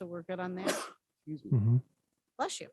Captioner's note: sneezes